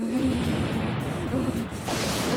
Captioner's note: growls; thunder